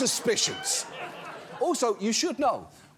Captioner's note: laughter